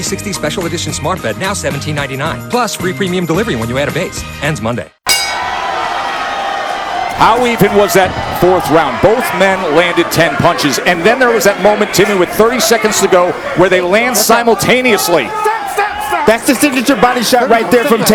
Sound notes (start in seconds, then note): 5.0 bell rings